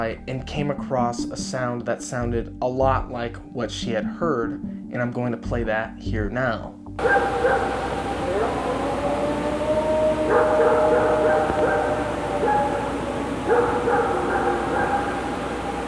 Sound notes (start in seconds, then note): 7.0 dogs barking; 7.1 creature howling